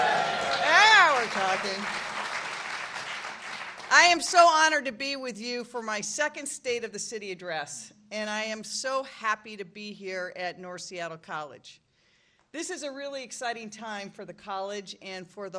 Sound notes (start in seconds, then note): 3.8 applause